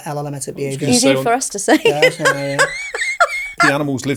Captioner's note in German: lacht